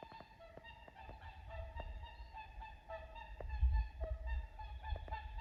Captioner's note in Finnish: Joutsenten ääntelyä